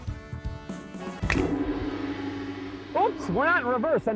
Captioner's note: gong; finger snaps